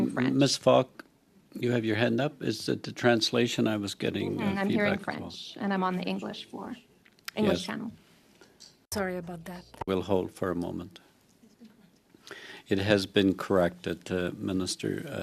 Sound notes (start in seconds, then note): 2.3 speaking French